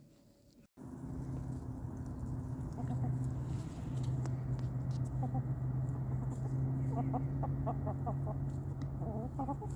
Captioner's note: gentle chicken clucking sounds